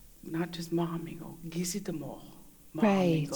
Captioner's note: In Mi’kmaq